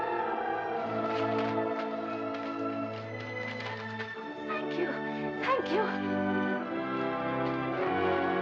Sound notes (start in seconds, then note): 0.0 uplifting music; 1.0 cash rustling; 6.9 uplifting music